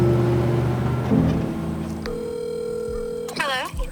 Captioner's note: phone dial tone